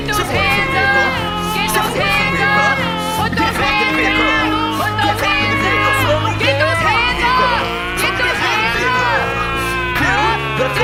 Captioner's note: screams but in an attractive way